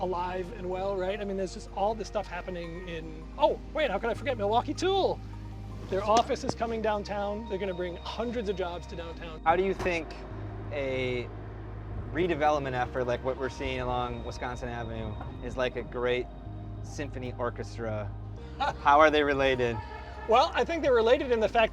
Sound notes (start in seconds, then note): 18.4 laughs